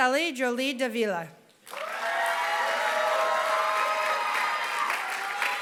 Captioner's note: applause